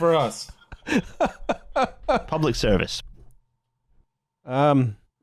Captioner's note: laughs